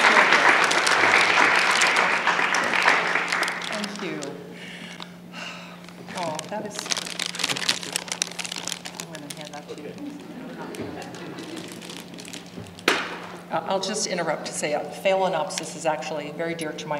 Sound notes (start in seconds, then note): 4.5 applause